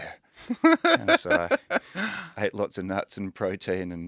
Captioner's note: laughing